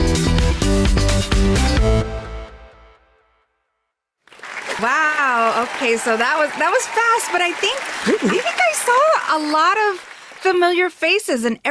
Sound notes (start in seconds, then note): 5.5 applause